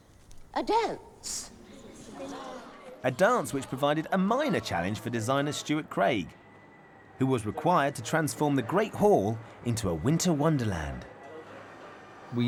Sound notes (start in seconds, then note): 0.5 excited chattering